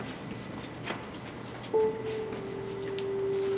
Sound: footsteps

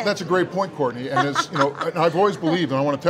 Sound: laughs

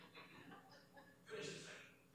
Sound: laughter

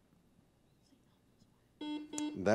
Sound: buzzer beeps

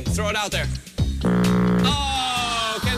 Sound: buzzer rumbling

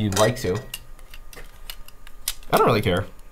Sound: machine parts rattling

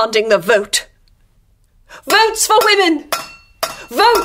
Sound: she bangs the tin mug against the bars on her door and shouts

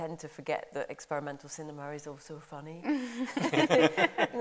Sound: laughter

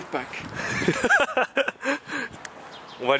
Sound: laughing

